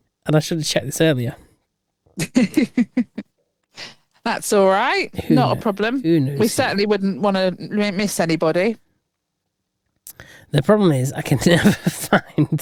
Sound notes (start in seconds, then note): 2.2 laughing